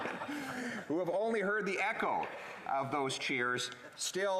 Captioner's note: laughter